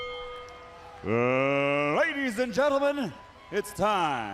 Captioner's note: bell rings